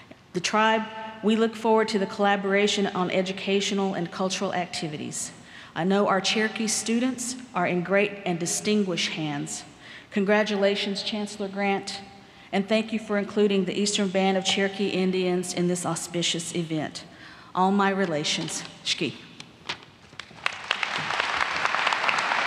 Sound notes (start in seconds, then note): 19.5 speaks Cherokee; 20.1 applause